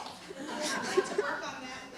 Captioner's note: laughing